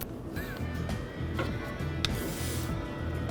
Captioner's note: laughs